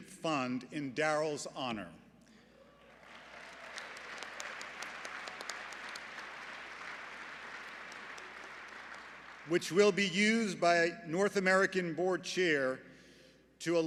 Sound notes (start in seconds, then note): 2.7 applause